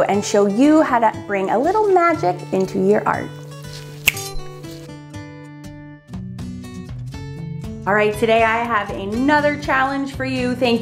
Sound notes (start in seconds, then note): 3.4 snaps; 6.4 light music